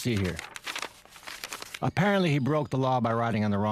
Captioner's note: shuffling papers